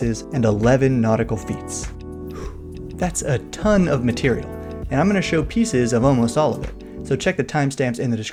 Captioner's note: whew